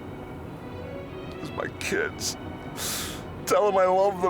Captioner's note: American accent